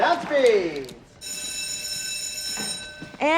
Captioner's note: bell ringing